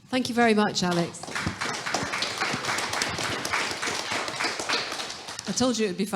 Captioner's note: audience applauding